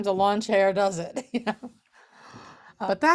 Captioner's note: laughing